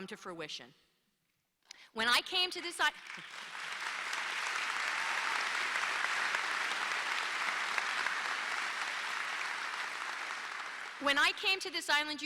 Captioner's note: applause